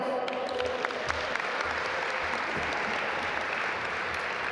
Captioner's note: audience applaud